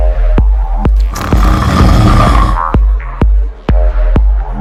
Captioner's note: woman growling